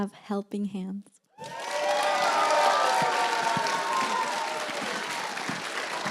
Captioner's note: cheers, applause